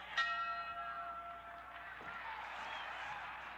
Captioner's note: bell rings